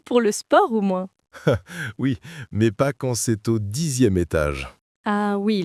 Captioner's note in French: rire